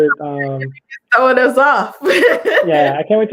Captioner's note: laughs